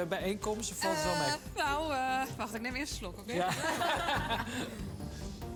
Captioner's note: laughter